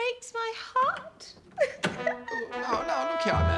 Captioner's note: sobs